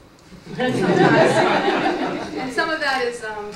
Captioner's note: laughter